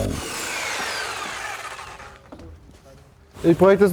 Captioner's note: the whirring of the saw fades away